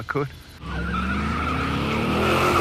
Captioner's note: car tires screech